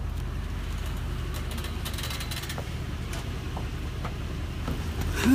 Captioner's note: car engine sounds as it slows down